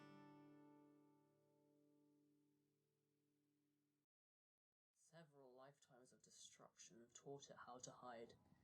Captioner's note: soft guitar music fades out; voice fading in